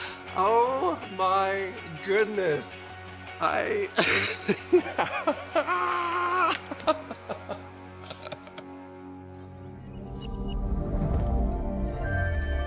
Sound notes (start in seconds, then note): 3.9 laughing; 5.6 screaming; 6.9 laughing; 9.8 gentle music